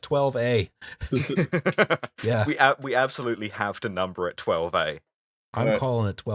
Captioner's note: laughter